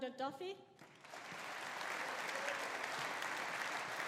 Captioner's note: audience applauding